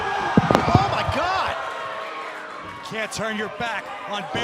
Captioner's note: cheers and boos